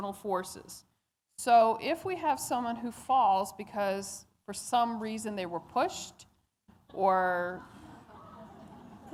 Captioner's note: laughter